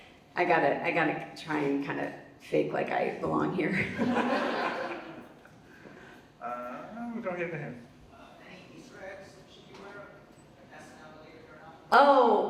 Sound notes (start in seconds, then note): 3.8 Vanessa and audience laughs